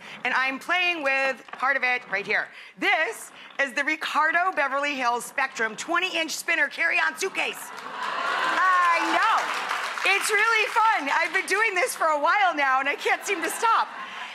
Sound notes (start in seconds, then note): 7.5 audience clapping and cheering